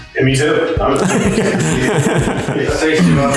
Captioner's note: laughing